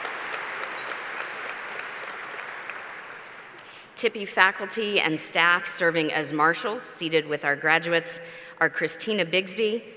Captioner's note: applause